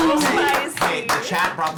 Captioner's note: cheers